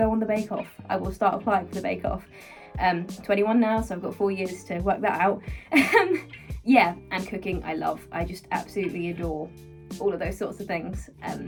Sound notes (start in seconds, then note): 5.7 laughing